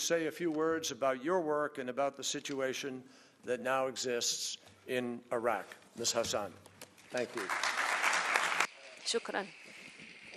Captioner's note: applause